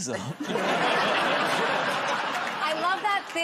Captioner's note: laughter